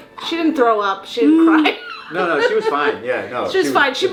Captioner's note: laughs